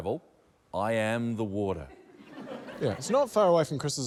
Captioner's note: laughter